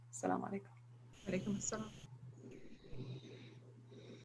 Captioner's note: Arabic